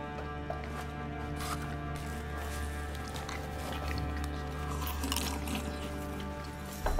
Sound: eating, drinking noises

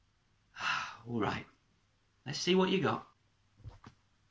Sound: sigh

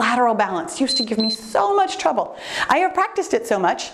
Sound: timer beeps

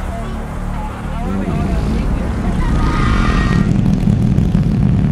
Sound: fart noise

